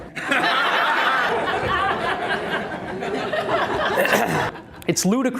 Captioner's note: audience laughter